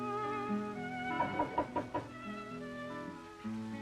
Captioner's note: knocking at door